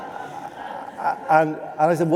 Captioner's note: laughter